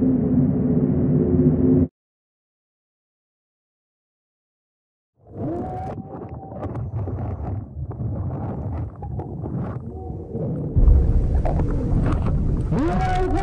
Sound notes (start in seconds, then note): 5.5 divers screaming; 5.5 water sloshing; 12.7 divers screaming in foreign language